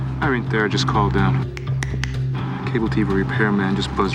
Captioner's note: snaps fingers